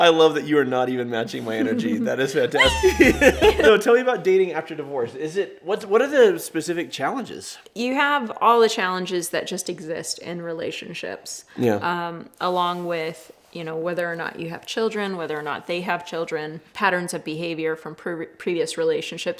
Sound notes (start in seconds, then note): 2.5 both laughing